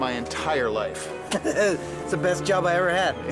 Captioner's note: laughs